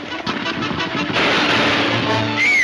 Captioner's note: gunshots banging; Mary screaming